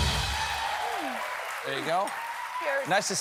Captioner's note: cheers and applause